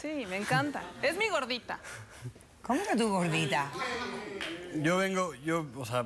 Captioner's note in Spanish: exclamaciones del público